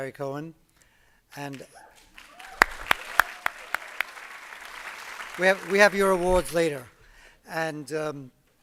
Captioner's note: applause